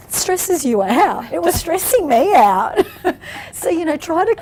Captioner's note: laughs